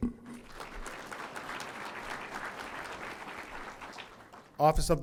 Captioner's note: audience applauding